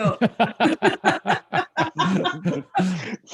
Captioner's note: laughter